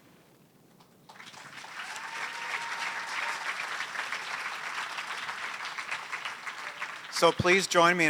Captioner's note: applause